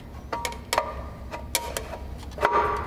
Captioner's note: metallic sounds